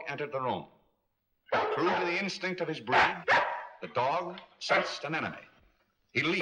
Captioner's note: dog barking